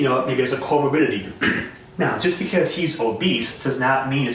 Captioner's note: clears throat